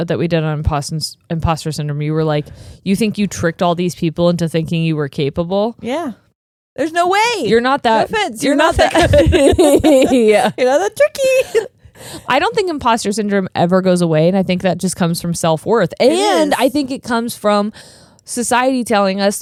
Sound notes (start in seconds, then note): 11.0 laughing